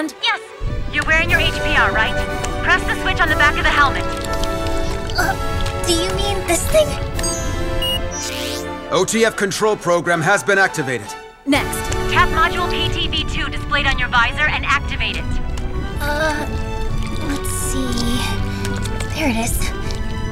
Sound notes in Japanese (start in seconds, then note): 7.0 起動音